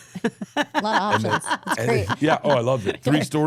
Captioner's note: laughs